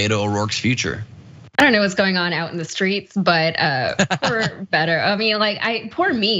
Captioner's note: laugh